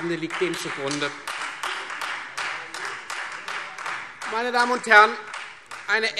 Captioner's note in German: Beifall Freie Demokraten